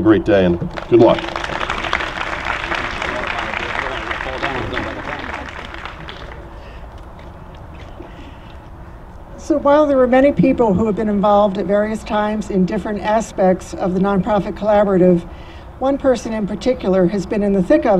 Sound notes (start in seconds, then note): 0.6 applause